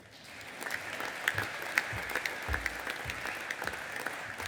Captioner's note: audience applauding